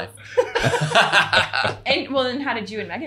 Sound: everyone laughing

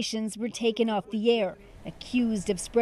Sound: speaking Foreign Language

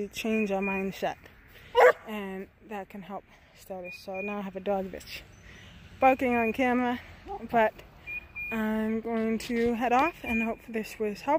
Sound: dog barks

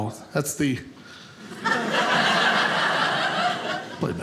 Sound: audience laughing

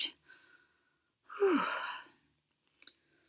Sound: sighs

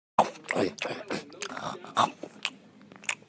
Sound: eating

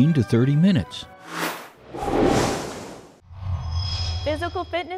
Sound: sound Effects

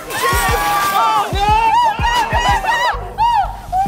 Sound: laughing, cheering

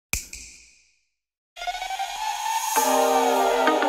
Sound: snap

